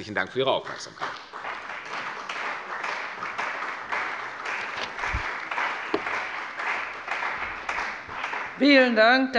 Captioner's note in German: Beifall bei der CDU und dem BÜNDNIS 90/DIE GRÜNEN